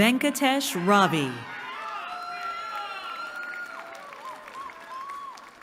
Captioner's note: cheering